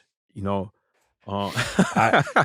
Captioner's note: laughter